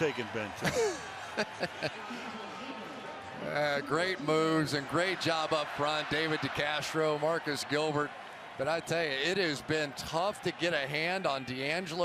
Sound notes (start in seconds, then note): 0.6 laughs